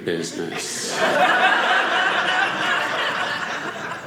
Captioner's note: audience laughing